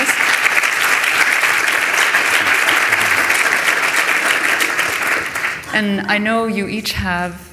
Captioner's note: applause